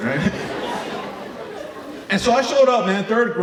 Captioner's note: audience laughing